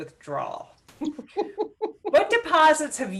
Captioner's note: chuckles